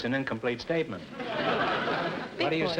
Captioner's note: audience laughter